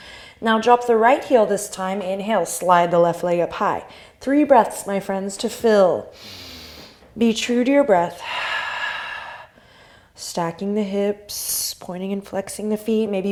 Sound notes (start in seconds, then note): 0.0 deep exhale; 0.0 inhale; 6.1 inhale; 8.9 deep exhale